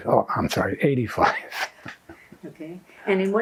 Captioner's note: laughing